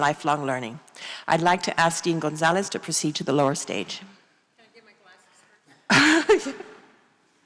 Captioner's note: small laugh